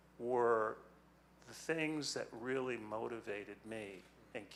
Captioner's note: none